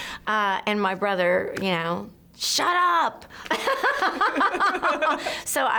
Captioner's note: laughs